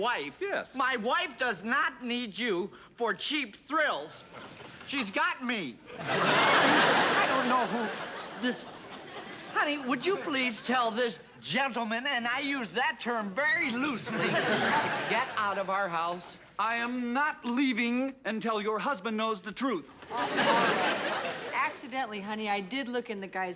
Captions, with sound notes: My wife does not need you for cheap thrills. She's got me. -[ Laughter ] -Honey. I don't know who this... Honey, would you please tell this gentleman, and I use that term very loosely, to get out of our house? I am not leaving until your husband knows the truth. All right, accidentally, honey, I did look in the guy's window,